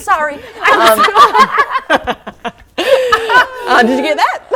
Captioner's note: laughing